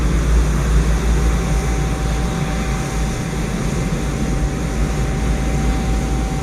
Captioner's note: aircraft engine noise